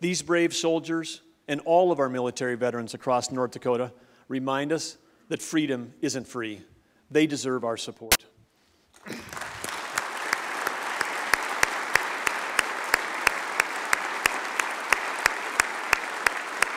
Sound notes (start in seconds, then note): 8.9 applause